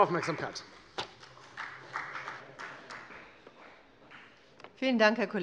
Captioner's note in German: Beifall bei der FDP